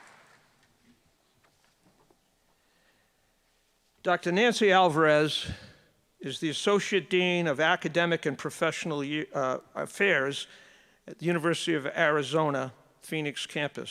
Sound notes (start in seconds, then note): 0.0 applause